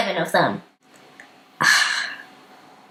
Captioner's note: exasperated sigh